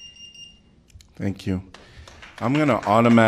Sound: applause

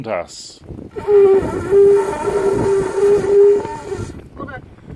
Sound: sounds of conch

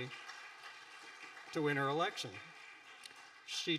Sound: audience applauding

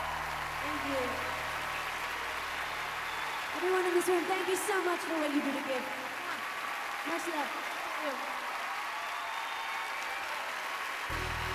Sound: applause

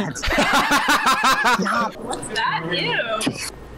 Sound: laughs; woman on Phone

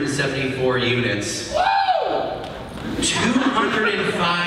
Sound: man whoops loudly

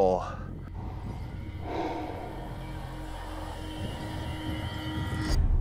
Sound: dramatic sound effects

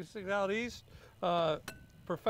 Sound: egg clanks

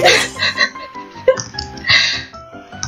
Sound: laughs

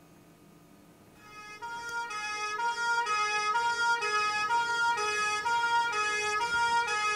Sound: siren sounds

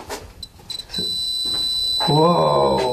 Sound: metre beeping

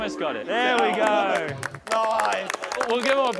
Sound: contestants clapping

